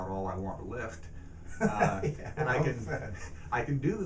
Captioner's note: laughs